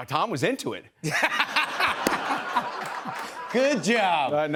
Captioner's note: laughter